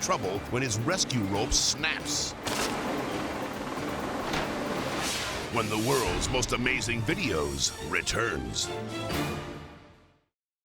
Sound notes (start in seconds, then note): 2.5 rope snaps